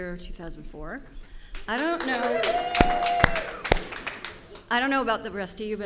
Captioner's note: audience cheers and applause